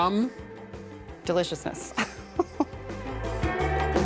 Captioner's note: chuckling